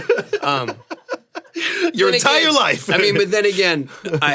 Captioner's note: laughs